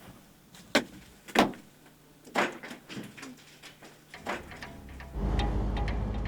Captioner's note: rock clattering